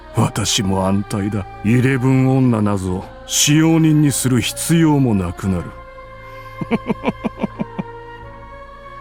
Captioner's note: giggle